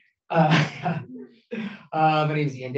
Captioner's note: chuckles